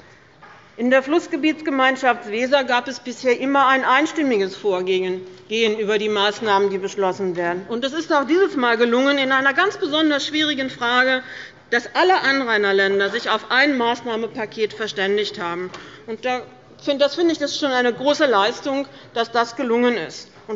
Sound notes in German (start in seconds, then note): none